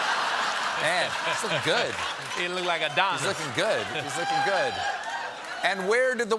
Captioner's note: laughter